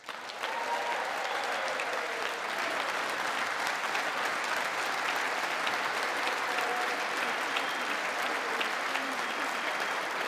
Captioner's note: applause